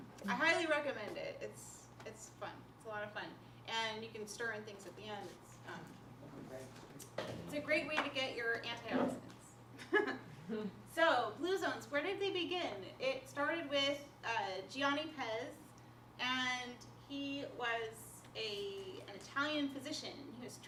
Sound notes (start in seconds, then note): 9.8 laughter